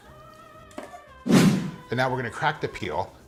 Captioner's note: whooshing